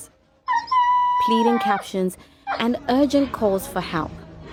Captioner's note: dog barking